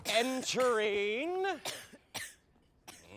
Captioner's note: coughing continues